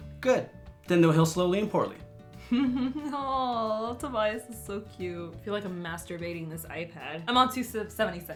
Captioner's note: chuckles